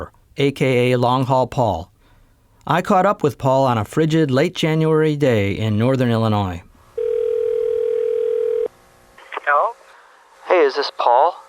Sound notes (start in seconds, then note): 7.0 telephone ringing